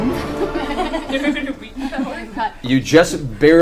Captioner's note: all laugh